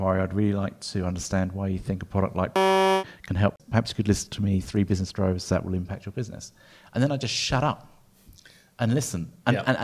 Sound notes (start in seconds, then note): 2.5 beep